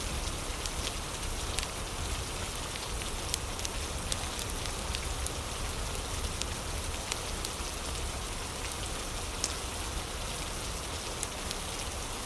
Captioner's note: fire crackling